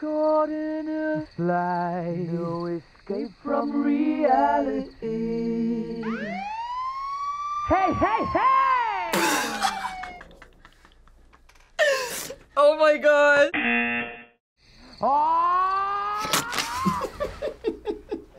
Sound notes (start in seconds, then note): 5.6 sire blares; 9.1 laughs; 13.5 buzzer rings; 16.5 laughs